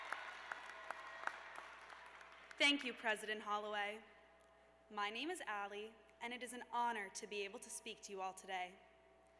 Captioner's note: cheers and applause